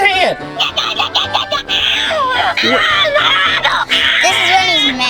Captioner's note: angry baby yelling